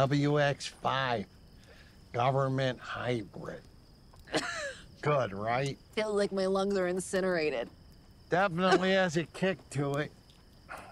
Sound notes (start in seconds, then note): 4.3 coughs